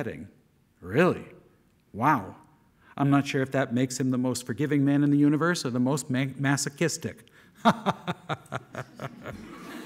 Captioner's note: laughing